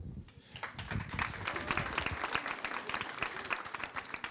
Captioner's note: applause